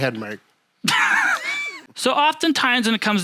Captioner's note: laughs